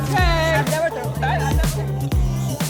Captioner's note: group chattering; upbeat techno music